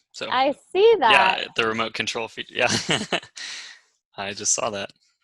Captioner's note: laughs